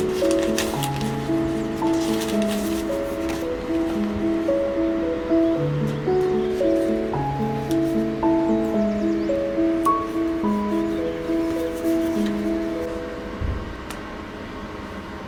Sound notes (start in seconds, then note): 0.0 stickers sliding; 4.0 calming piano music; 8.2 birds chirping